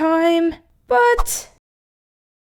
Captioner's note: whoosh!